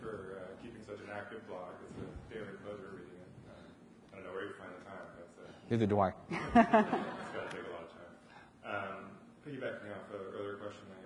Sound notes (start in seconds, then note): 6.4 audience laughs